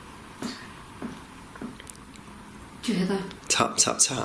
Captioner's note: soft tapping